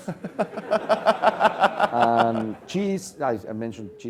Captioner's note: laugh